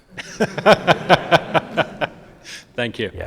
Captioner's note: audience laughs